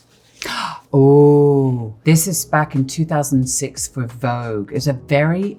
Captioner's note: gasps